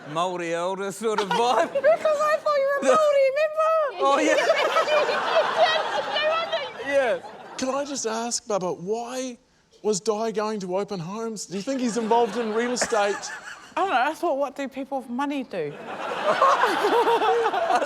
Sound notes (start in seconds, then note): 4.0 laughs; 15.7 laughter